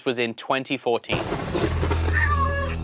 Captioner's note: lightning strikes; meowing